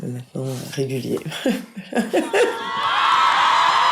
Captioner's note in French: rires